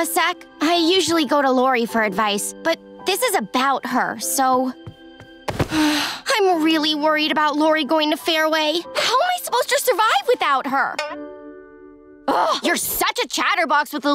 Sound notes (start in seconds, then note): 5.6 sighing